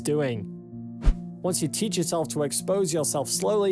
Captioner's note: screen swishes